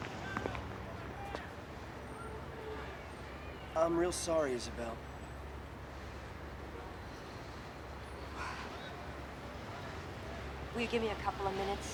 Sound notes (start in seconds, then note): 7.6 sighs